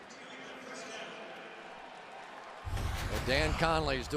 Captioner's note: pa announcement